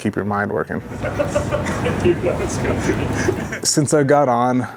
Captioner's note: colleagues laughing